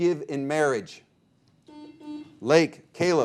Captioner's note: buzzer beeping